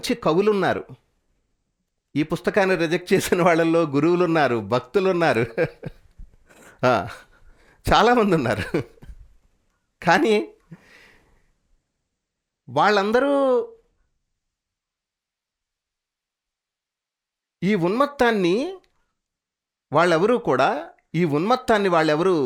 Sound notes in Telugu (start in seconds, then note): 9.1 నవ్వు